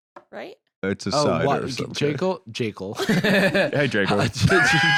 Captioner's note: laughs